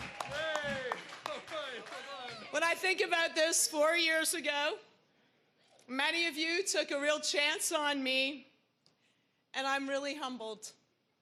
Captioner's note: cheering